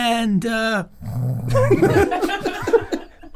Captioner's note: Rob snores; group laughs